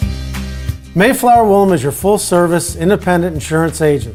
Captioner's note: upbeat music; voiceover